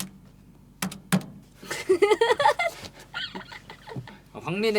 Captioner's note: laughter